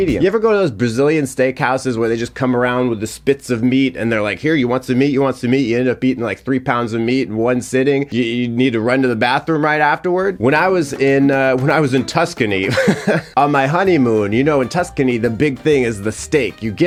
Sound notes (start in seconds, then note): 12.6 chuckling